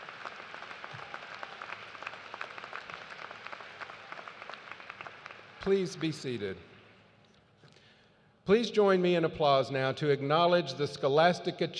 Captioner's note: cheers and applause